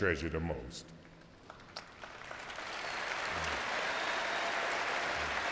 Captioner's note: crowd applauding